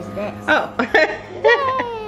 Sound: laughs

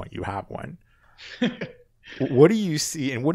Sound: laughs

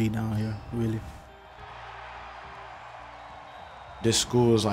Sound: crowd cheering

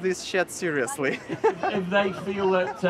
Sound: laughs

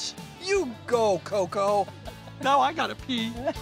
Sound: people laughing

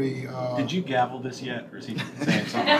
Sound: laughter

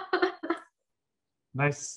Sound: laughs

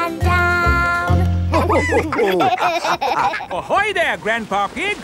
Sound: all laughing

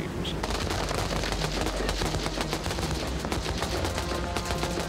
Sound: gun fires and explosion

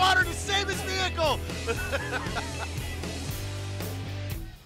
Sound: laughter

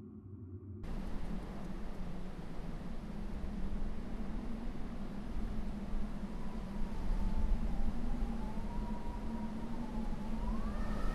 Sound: wind rushing

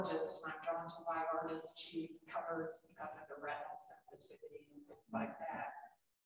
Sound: speaks faintly

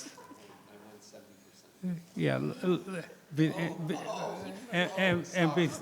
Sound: board members chattering

